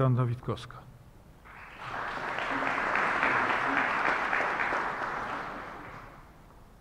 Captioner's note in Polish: oklaski